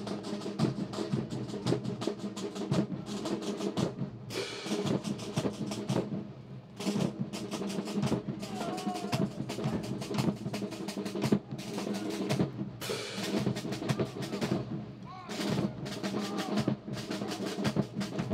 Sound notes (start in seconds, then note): 14.5 officer shouting orders; 17.1 drums